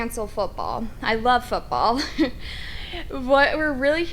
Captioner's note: chuckles